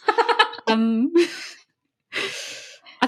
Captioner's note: laughs; laughing